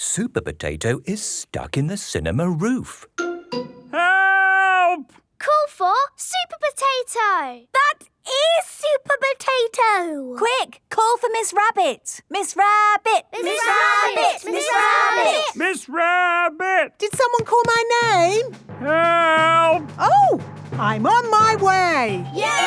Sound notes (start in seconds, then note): 13.4 all chanting